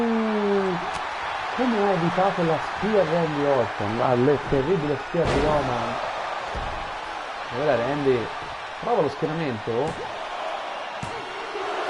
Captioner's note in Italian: Applauso